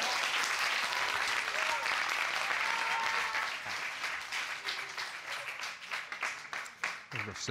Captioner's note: audience cheering